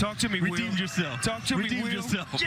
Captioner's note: laughter